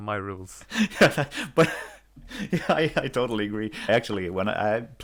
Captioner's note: laughter